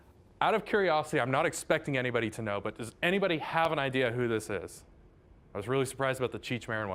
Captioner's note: none